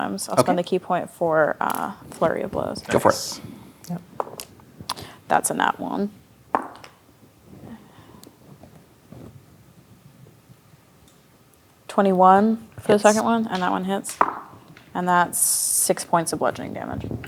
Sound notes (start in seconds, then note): 4.6 dice rolling; 14.1 dice rolling